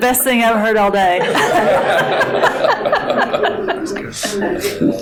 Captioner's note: all laughing